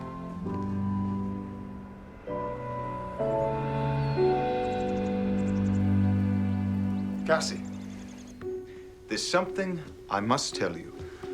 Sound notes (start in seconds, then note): 2.4 birds chirping; 2.4 light music